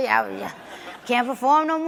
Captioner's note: audience laughs